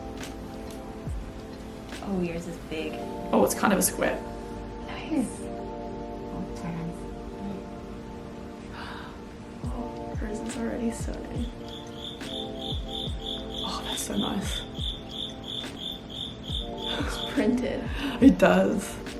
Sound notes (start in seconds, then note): 11.4 crickets chirping